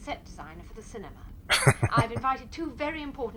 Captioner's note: laughing